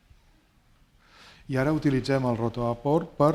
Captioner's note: speaking spanish